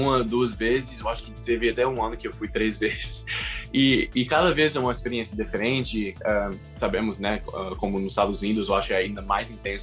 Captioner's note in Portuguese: risos